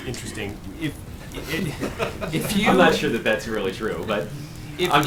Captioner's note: laughter